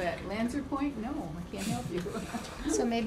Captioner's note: laughter